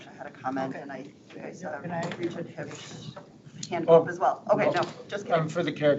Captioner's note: board members murmuring